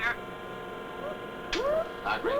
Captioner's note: siren sounds